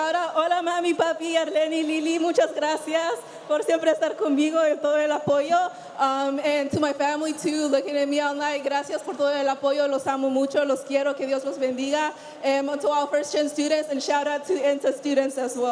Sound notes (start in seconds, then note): 6.8 speaking spanish